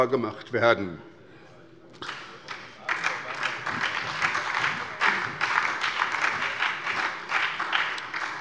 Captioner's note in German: Beifall bei der SPD - Zuruf von der CDU: Oh Mannomann!